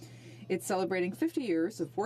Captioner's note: speaking French